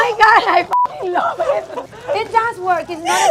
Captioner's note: beeping